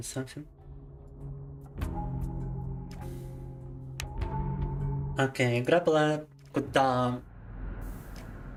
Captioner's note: speaking in Russian